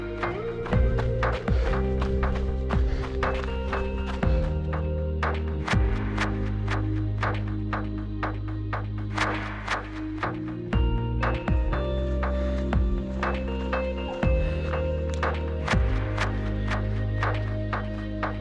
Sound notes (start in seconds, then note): 0.1 footsteps